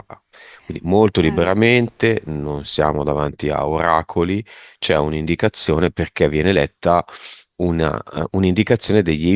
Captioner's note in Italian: sbuffare